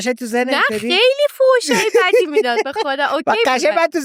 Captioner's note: laughs